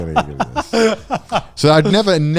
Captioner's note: both laughing